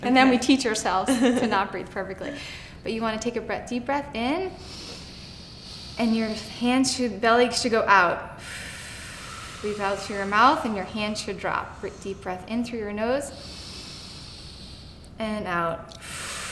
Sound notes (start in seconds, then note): 4.5 inhaling slowly; 8.3 exhaling slowly; 13.3 inhaling slowly; 15.9 exhaling slowly